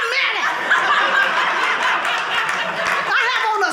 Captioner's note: audience laughing